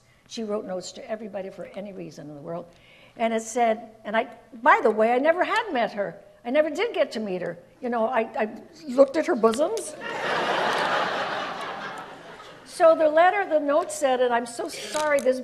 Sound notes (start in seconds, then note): 10.0 audience laughs